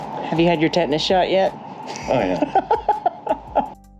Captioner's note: laughter